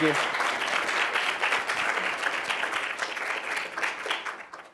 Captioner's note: applause